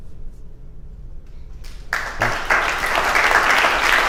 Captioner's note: applause